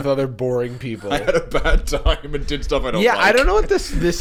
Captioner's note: laughing